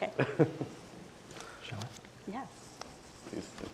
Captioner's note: chuckling